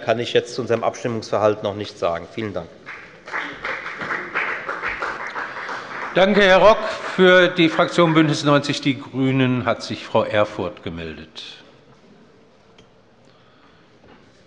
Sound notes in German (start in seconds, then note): 2.8 Beifall bei der FDP